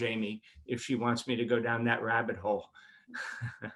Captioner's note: laughs